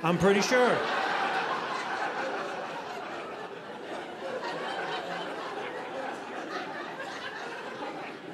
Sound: audience laughing

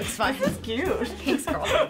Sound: laughing

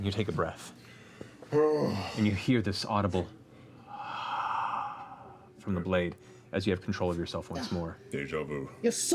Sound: sigh

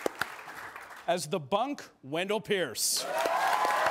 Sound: audience cheering

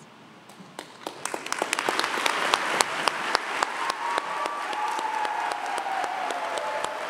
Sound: audience applauding; audience cheering

